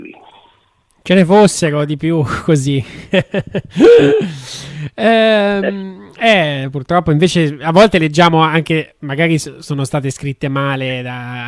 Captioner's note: laughs